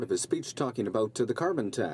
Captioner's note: speaking in french